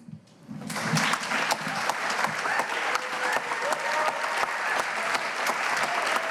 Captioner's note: cheers and applause